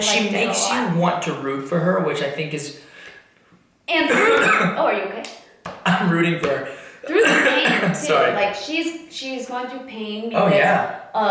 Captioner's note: coughs